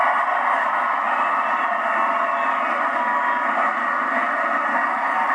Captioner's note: applause